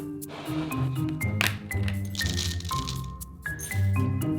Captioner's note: oatmeal pouring